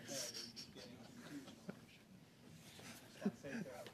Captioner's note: laughter